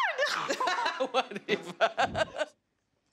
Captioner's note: laughs